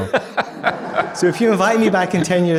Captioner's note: audience laughing